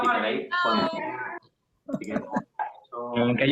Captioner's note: overlapping voices in greeting